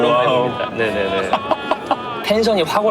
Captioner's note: hahaha